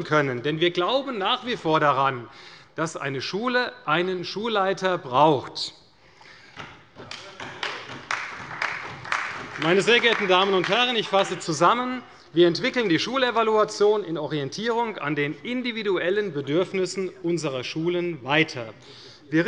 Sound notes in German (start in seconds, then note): 7.0 Beifall bei der CDU und dem BÜNDNIS 90/DIE GRÜNEN